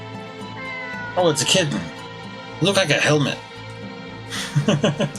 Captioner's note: cat meows; chuckles